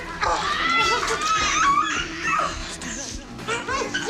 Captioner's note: screaming